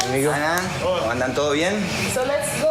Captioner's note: speaking In Foreign Language